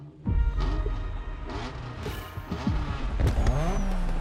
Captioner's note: car engines revving